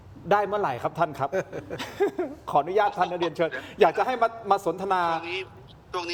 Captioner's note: laughs